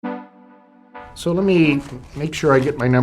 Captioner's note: papers shuffling